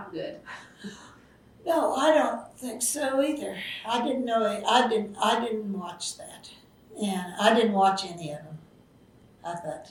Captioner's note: laughs